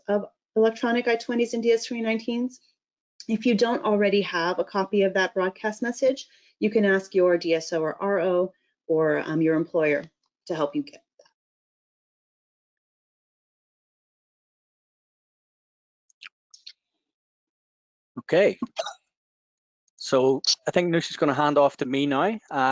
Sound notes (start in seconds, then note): 11.6 silence